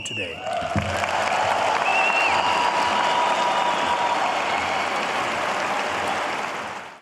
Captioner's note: applause